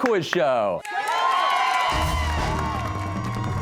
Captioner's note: cheers and applause